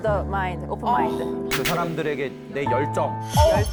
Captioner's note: touching sound effect